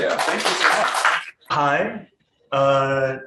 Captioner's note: audience clapping